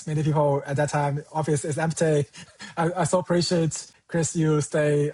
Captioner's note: chuckles